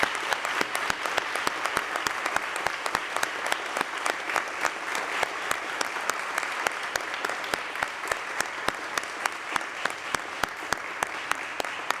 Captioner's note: applause